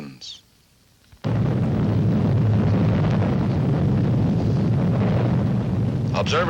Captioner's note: explosion